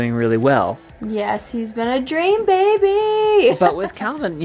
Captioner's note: laughing